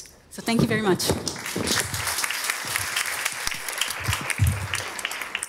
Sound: audience applauding

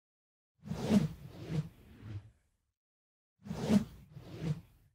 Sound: swoosh

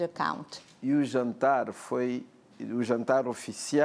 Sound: speaking portuguese

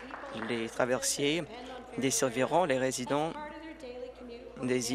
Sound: applause

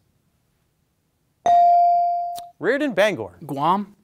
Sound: bell ringing

